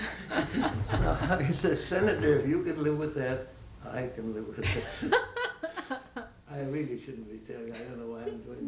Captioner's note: laughter